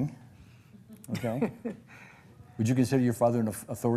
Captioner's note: laughs